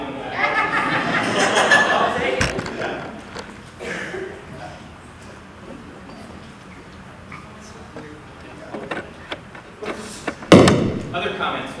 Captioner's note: laughter